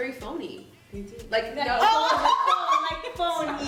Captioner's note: laughter